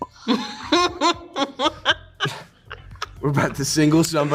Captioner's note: Joy laughing; Hunter and Joy majorly laughing